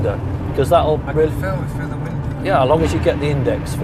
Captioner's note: voiceover